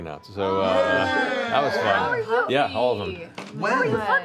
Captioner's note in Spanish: vítores